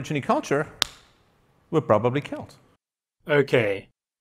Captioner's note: smacks hand